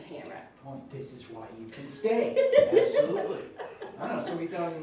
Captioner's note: laughing